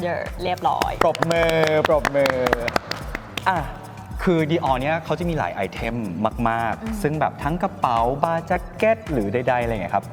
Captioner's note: clap clap